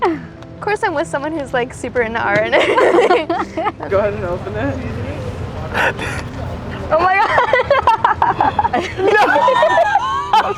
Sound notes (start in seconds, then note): 2.6 both chuckle; 6.8 both laughing